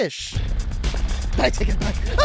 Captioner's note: the ground begins shaking violently